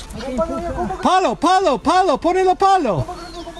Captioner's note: in Spanish